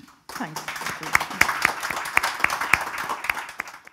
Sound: audience applauding

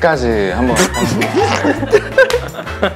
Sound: haha

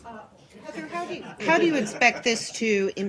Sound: laughter

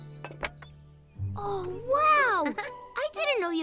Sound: chuckles

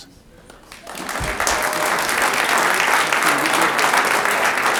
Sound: audience applauds

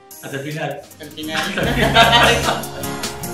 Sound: laugh

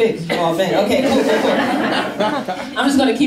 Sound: laughing

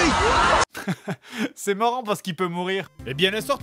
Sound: chuckles

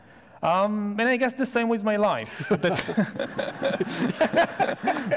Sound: audience laughs; laughs

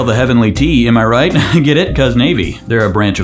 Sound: laughs

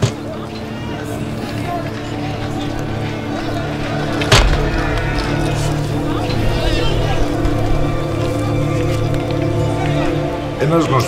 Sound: screaming and yelling in the background

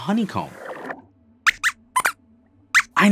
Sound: squeaks squeaks

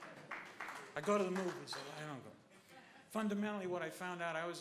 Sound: applause

